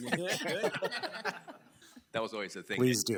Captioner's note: board laughs